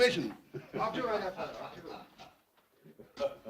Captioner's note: captain laughs